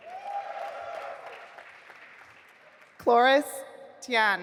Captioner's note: audience applauding